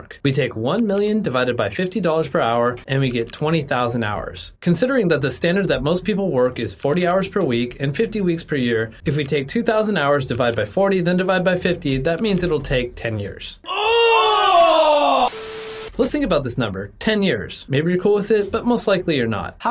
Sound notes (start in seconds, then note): 13.6 people groaning